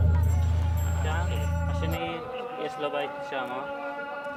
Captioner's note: Hebrew spoken audio